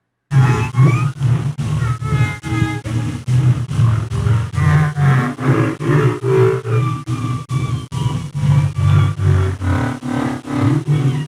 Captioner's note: whale song modulated